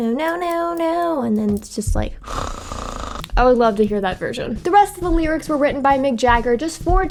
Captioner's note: snoring